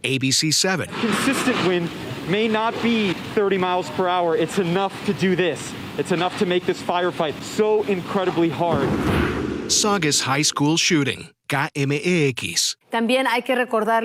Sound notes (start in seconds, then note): 1.7 speaking spanish